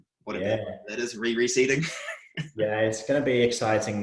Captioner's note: laughing